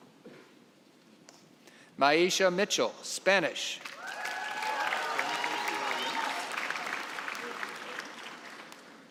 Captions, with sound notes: Mayesha Mitchell, Spanish. (cheering and applause)